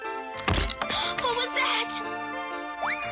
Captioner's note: thud